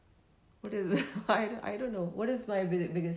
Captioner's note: laughs